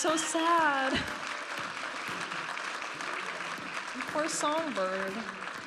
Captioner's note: audience applauding and cheering